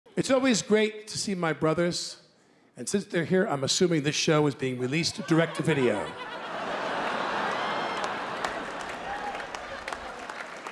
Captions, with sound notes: - It's always great to see my brothers. And since they're here, I'm assuming this show is being released direct to video. (laughter)